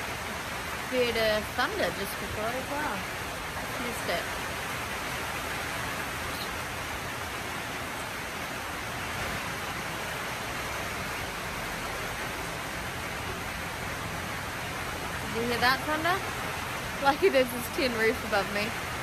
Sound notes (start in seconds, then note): 5.3 loud rain on metal roof continues